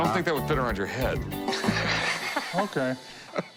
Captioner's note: laughs